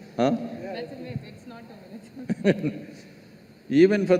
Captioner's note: Sadhguru Laughs